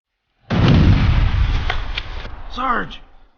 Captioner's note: explosion bangs